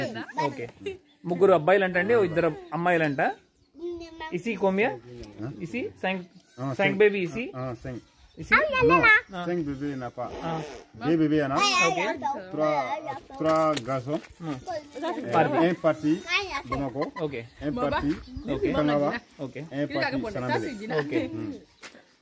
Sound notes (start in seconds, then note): 3.7 speaking in Foreign language